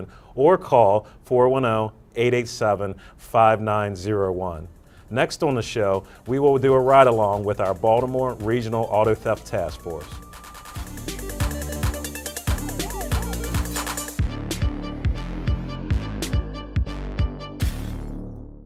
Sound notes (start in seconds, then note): 8.7 sirens blaring; 10.1 upbeat music